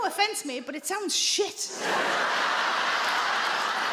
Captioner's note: audience laughs